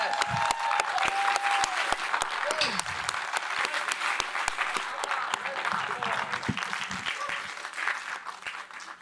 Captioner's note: applause